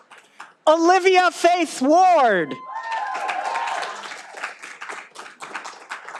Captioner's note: all applauding